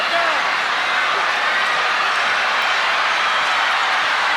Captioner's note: crowd cheering